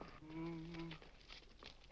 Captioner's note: humming